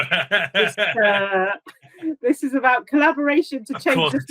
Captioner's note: laughing